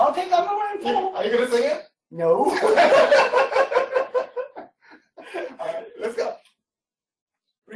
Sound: laughter

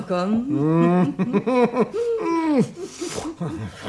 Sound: giggles

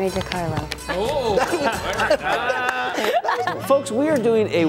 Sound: guys laughing

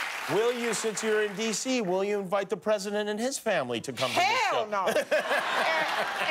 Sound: cheers and applause

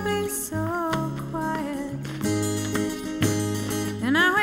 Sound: ball thwacks

